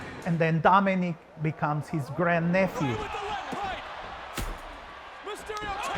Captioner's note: none